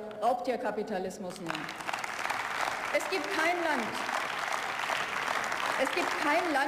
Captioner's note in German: Beifall